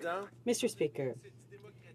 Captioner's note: speaking French